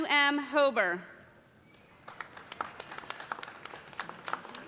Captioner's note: applause